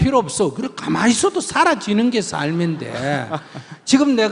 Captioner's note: questioner/Audience Laughter